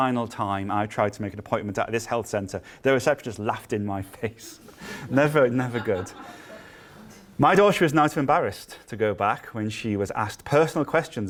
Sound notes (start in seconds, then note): 4.8 laughter